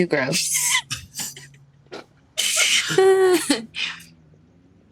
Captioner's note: all laugh